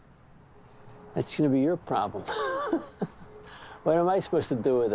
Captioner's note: laughs